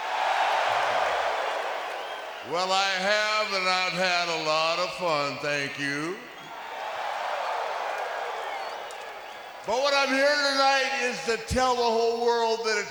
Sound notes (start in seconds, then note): 0.2 audience cheers; 6.8 audience cheers